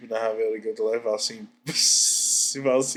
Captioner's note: laughs